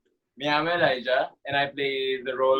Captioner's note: in Spanish